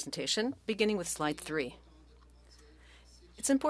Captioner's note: speaking French